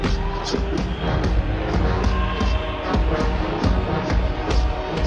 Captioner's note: dramatic music; crowd cheering